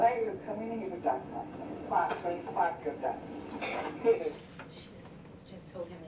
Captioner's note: woman speaks in foreign language